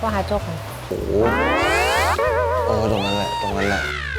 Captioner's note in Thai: โอดโอย